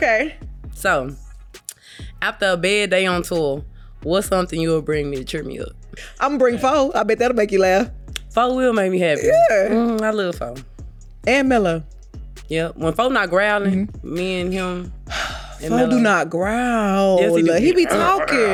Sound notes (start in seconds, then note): 15.0 sighs